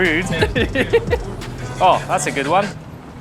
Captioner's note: laughs